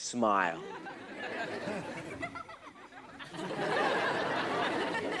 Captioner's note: audience laughs